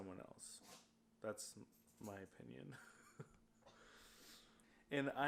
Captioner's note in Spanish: risas